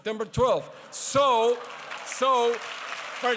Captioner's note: applause